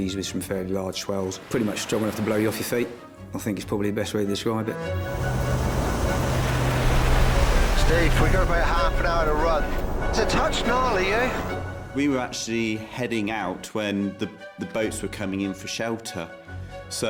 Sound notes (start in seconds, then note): 4.9 waves crashing; 5.1 dramatic music